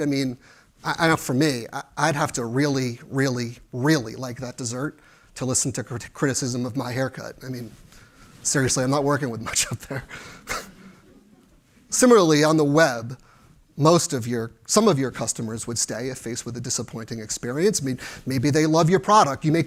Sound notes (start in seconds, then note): 9.8 chuckles